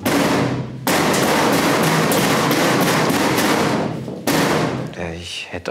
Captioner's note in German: Krach